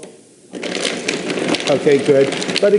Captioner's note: blender whirring